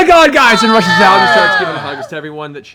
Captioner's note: cheering